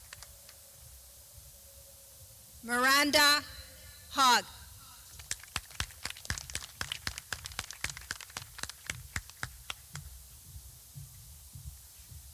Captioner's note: clapping